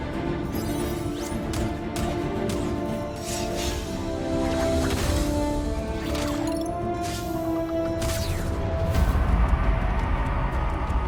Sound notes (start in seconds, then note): 1.2 thuds and metallic clangs